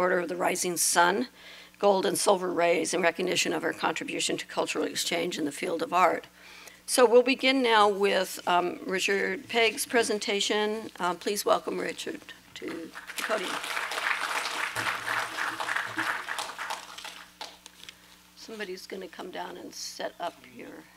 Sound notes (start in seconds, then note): 12.6 applause